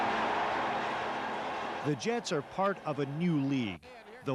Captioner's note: cheering